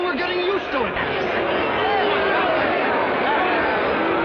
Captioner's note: shouting